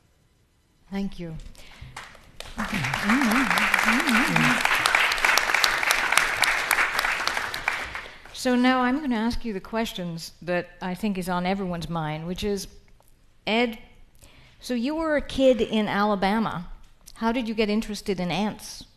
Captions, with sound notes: - Thank you. (audience applauding) So now I'm gonna ask you the questions that I think is on everyone's mind, which is, Ed, so you were a kid in Alabama. How did you get interested in ants?